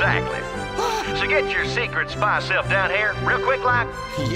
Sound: gasps

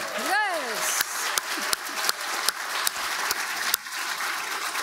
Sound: audience applauding

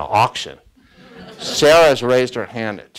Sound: students laugh

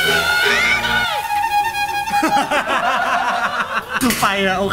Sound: using a horn

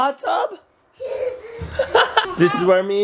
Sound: both laughing

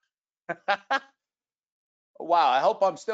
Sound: laughing

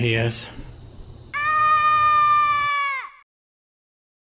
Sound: screaming

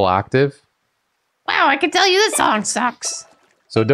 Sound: Toad voice

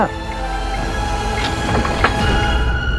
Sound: window opening

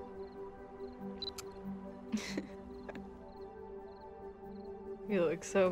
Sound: camera beeps and clicks

